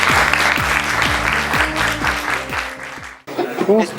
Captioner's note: applause